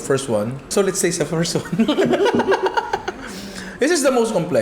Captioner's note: laughs